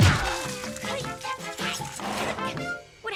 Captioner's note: Milo grunts; Tucker giggles